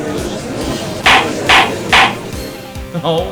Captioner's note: gallery chattering; gavel slams!